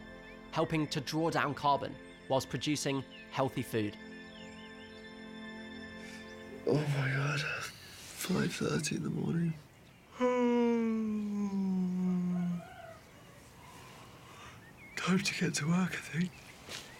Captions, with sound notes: Helping to draw down carbon whilst producing healthy food. Oh, my God. 5:30 in the morning. (yawning) Time to get to work, I think.